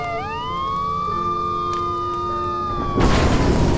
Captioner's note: gentle music; police sirens blaring; house exploding